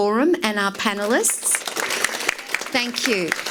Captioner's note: audience applauds